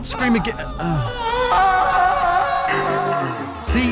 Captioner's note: screams